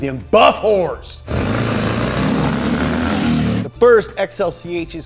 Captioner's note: engine revving